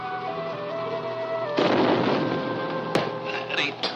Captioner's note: dynamite booming